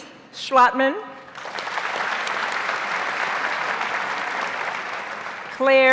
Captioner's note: audience applauds